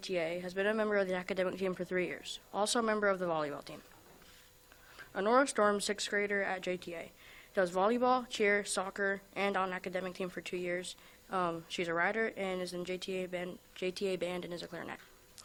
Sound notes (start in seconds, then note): none